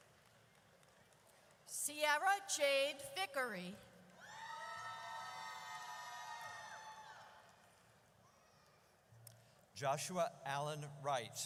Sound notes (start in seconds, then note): 4.2 audience cheers